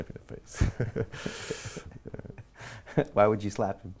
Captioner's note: laughing